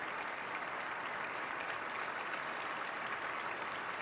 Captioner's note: applause